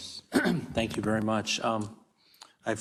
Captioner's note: cough